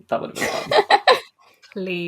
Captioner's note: laughs